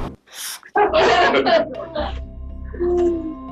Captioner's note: laughter